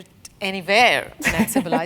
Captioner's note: laugh